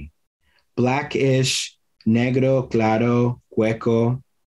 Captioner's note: foreign language